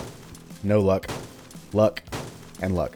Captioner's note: smash